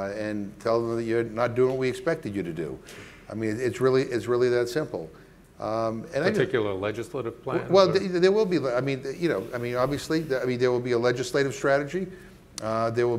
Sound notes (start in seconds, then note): 7.8 stammering